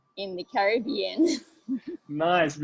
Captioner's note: laughs